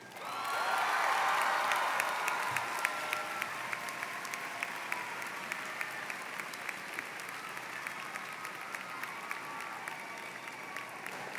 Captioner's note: applause